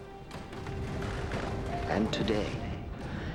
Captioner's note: benches creaking